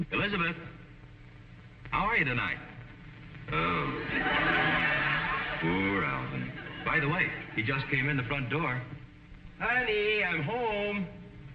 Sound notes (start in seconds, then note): 3.6 audience chuckling